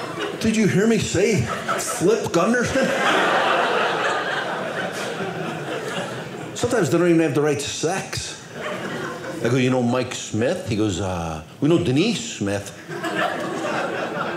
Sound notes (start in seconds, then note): 2.9 audience laughing